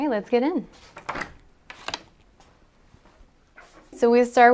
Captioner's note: door opening